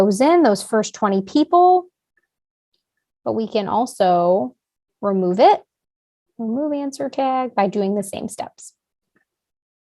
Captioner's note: click